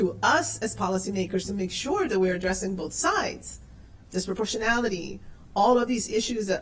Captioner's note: spanish